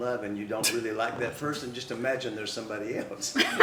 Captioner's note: laughter